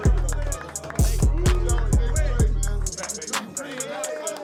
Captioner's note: team clapping